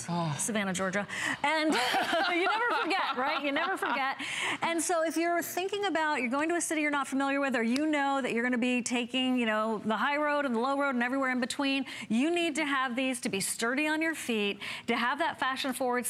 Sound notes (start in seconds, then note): 1.6 laughter